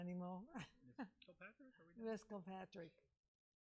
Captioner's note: laughing